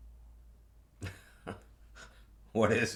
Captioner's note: chuckling